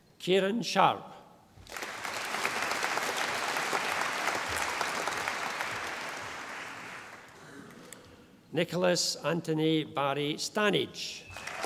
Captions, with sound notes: Kieran Sharpe. (audience applauding) Nicholas Antony Barrie Stannage.